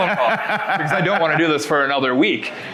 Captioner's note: laughing